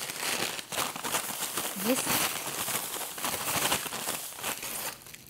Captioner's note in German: Lautes Rasseln des Zuckers